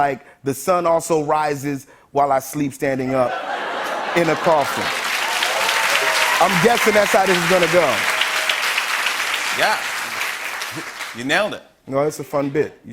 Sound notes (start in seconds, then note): 4.7 laughter, cheers, applause